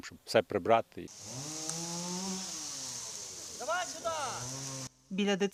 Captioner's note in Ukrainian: Звук електропили